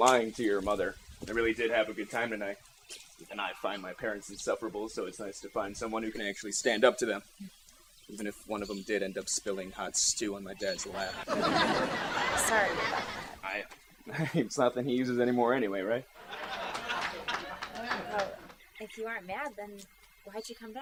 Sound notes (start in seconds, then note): 10.8 laughs; 16.1 audience laughing